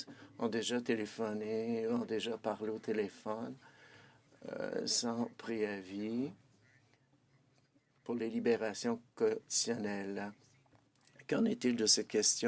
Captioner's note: speaking French